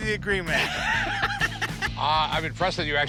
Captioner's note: laughter